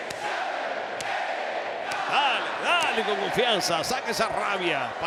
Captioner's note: applause